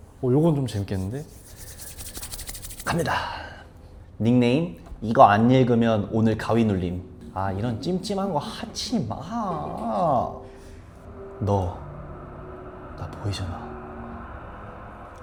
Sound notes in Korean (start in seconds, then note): 7.2 악!